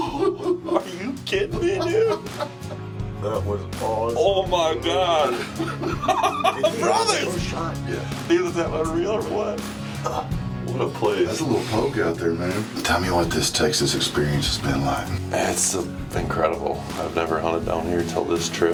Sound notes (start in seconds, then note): 5.2 laughs